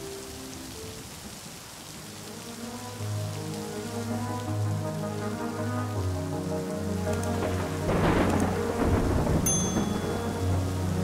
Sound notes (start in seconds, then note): 7.3 thunder lightning